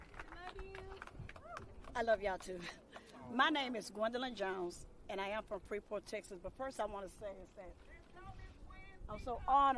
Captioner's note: applause